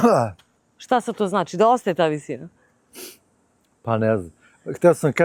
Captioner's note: cough; snort